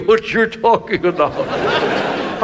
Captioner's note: audience laughs